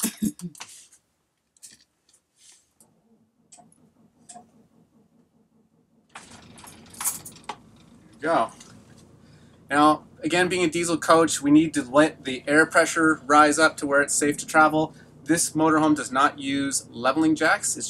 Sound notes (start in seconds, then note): 0.0 laughing; 3.2 engine turning over